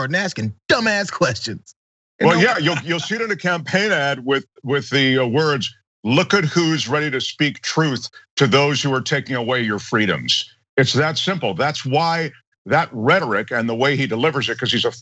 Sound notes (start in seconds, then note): 2.2 laugh